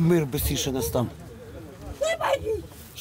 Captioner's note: A woman shouts something